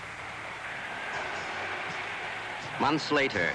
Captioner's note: crowd cheering